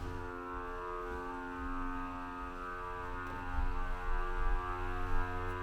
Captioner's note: suction machine buzzing